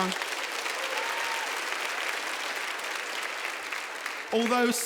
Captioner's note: audience applauding